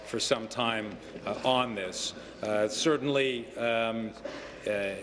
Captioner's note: none